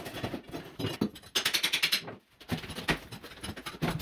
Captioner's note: hammering